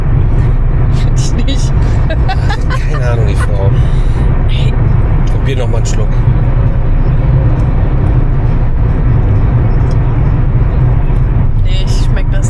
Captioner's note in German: gelächter